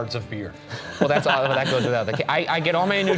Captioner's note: laughing